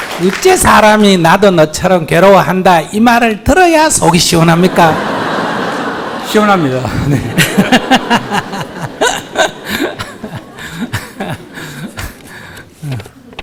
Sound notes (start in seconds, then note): 5.4 audience laughter; 8.3 Sunim and Audience laugh